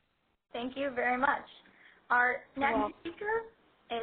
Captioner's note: voiceover